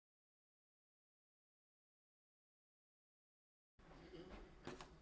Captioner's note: silence